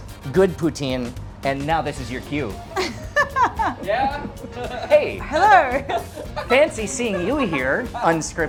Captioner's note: laughing